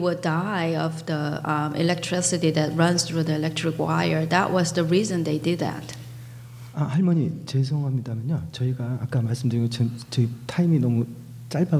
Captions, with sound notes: die of the electricity that runs through the electric wire. That was the reason they did that. (speaking foreign language)